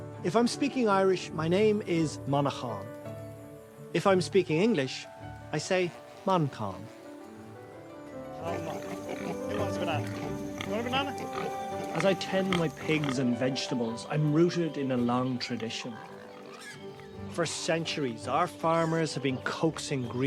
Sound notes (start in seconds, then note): 11.4 pigs snorting; 12.2 voice-over